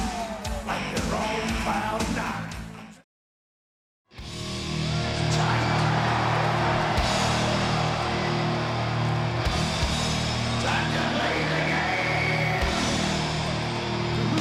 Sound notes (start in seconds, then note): 4.2 dramatic music; 4.3 audience cheering